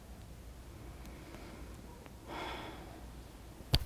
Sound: sighs

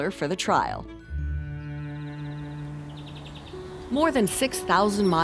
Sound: birds chirping

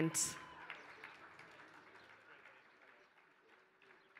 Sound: applause

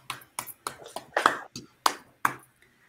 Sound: applauds

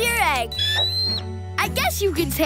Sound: screeching

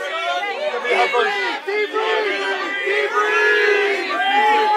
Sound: crowd

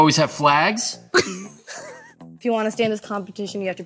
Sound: laughs

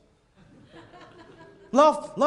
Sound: laughter

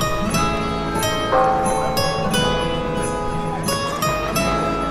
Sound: church bells chime

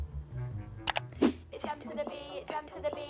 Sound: mouse clicking

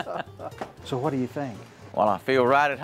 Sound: laughter

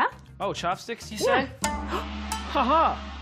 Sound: gasps

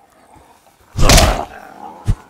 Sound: smack

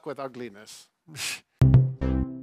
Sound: chuckling; musical flourish

